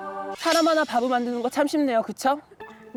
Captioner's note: sound effect: feeling bitter